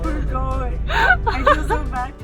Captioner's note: laughing